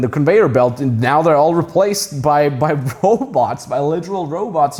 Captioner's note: chuckling